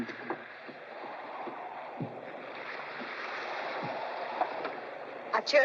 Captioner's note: ocean spray and wind howling